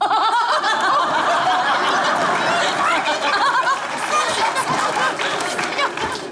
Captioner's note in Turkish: Kahkaha ve alkış sesleri